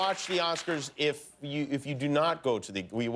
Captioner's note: laughter and applause